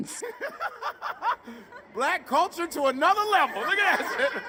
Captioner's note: students laughing; person laughs